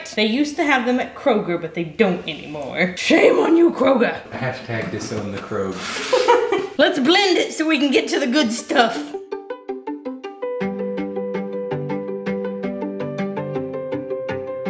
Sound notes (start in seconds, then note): 5.9 laughing; 7.8 light music